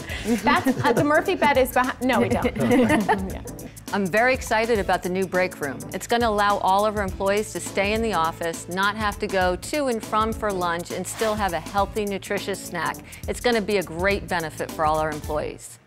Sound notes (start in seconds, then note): 2.1 laughter